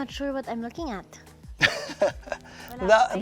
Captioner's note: chuckles